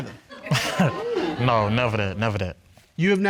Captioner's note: chuckles